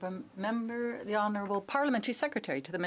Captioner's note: speaking French